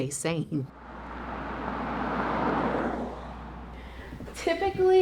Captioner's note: car engine